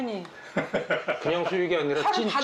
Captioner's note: sound of laughter